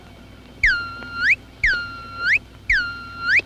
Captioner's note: beeping